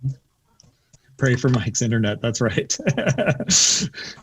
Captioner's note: laughs